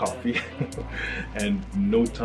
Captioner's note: laughs